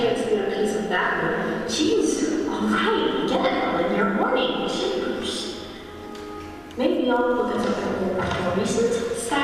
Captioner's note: page flip